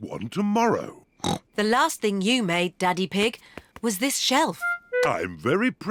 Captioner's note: snorts